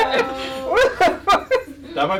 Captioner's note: through laughter